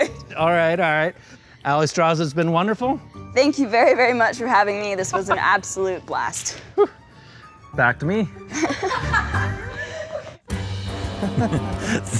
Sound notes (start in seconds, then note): 8.5 laughter; 11.1 all chuckle